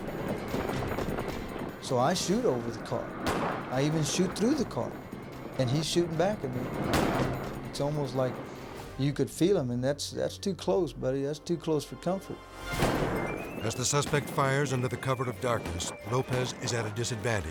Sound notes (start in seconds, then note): 0.1 guns firing; 6.6 guns firing; 13.8 guns firing